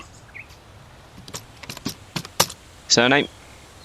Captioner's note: typing